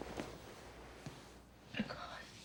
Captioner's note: voice cracking